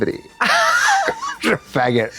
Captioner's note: Katya chuckles